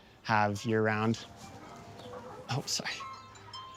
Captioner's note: phone ringing